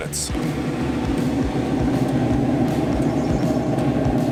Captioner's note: barbecue whooshing